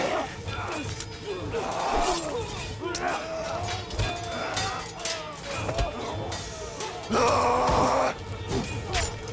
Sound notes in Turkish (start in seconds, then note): 0.2 Gerilim müziği; 6.7 Haykırıyorlar